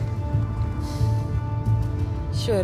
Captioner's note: exhales